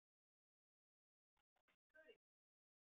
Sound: audio cuts out

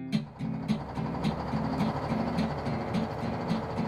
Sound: motor running

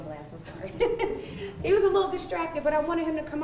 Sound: laughing

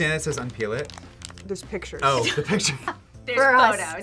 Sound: laughs

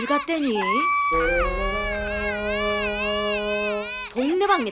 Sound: crying

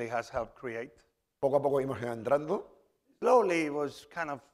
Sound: speaking spanish

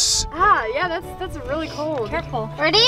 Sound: hisses

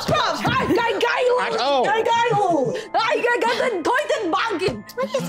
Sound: Isabella muttering

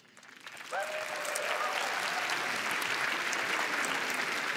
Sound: applause

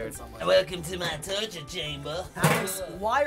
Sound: bizarre, gruff voice

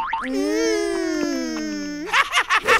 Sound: laughing

